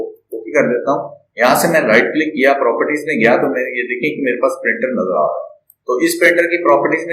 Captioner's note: right click